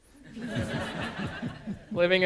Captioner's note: audience laughing